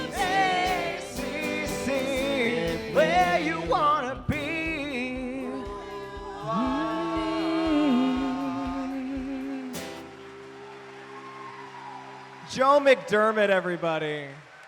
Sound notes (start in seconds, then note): 9.7 attendees applauding